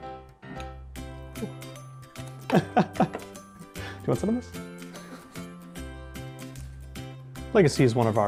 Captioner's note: laughter